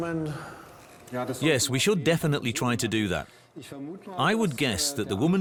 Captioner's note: in German